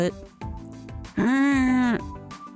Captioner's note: groans in Zombie